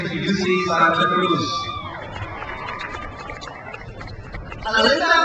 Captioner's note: crowd cheers